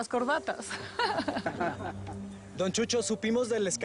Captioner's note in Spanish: Risas